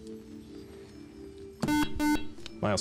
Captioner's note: beep